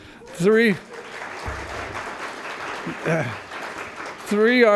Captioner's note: applause